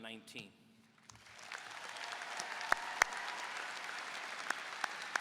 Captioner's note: audience applauding